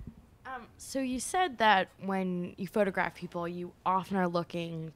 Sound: voiceover

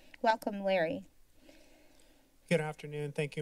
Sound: silence

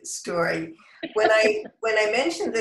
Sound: laughter

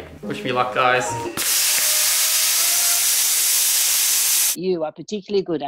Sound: air whooshing

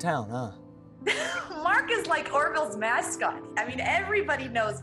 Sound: chuckles

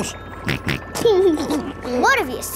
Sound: snorts and laughs

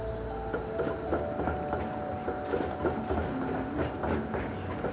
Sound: tracks clack rhythmically

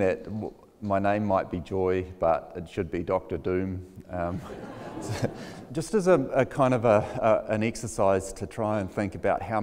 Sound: laughs

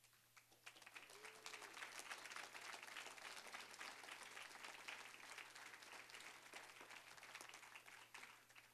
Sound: applause

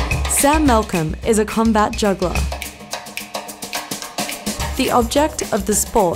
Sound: voiceover

